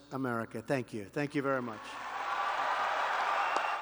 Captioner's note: applause